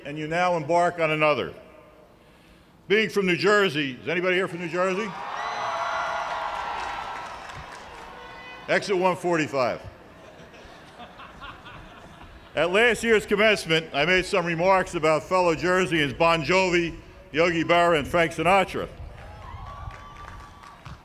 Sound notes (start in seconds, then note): 5.1 cheers and applause; 10.1 laughter